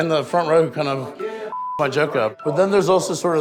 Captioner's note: beep